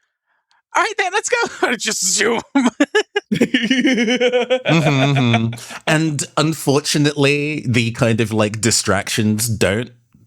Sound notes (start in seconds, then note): 2.0 laughs